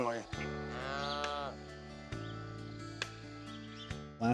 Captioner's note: cows mooing